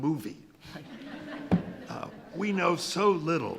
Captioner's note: attendees laughing